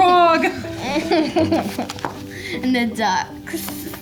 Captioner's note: laughs